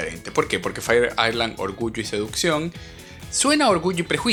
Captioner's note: in spanish